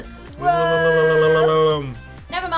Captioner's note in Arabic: يتكلم رطانة